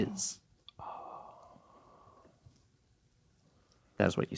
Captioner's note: someone gasping